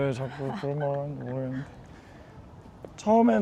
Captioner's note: voice getting quieter